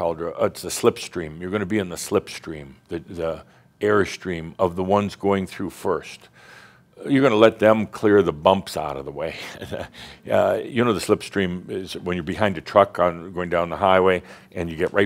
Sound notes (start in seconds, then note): 9.3 Adamus chuckles